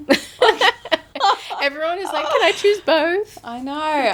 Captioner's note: laughing